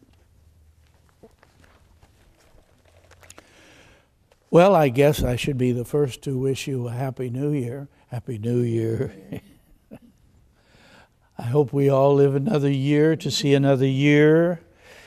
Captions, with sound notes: - Well, I guess I should be the first to wish you a Happy New Year. Happy New Year. (chuckles) I hope we all live another year, to see another year.